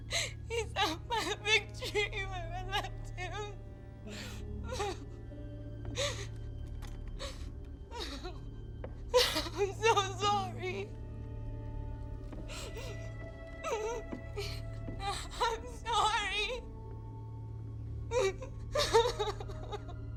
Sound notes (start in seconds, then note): 4.6 crying; 13.4 Cathryn crying; 18.7 crying